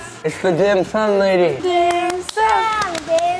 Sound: girls clapping

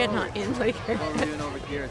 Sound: laughs

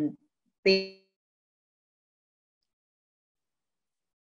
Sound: audio drop

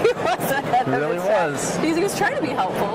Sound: laughs

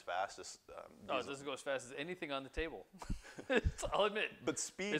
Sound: laughter

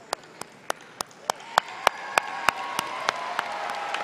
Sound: applause

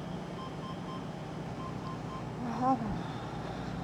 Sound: machine beeping

